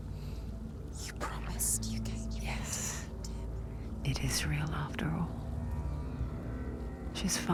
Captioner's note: whispering